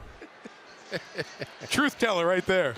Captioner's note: laughs